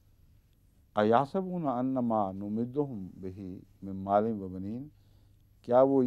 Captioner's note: Arabic